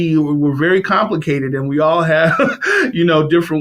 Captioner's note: laughs